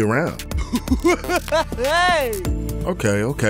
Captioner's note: clown laughing